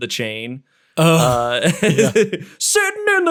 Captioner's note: laughing